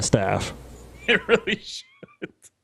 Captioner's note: he snickers